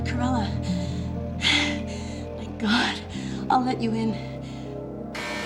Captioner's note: sighs in relief; door buzzes